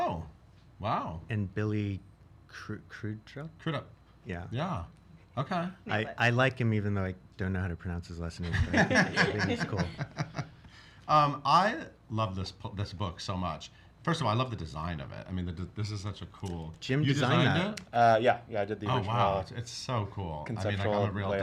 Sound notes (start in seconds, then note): 8.5 laughs